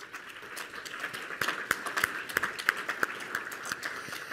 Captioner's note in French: Applaudissements